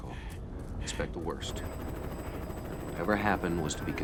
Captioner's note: helicopter whirring